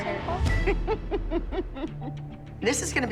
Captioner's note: laughs